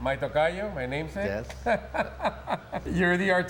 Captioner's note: laughs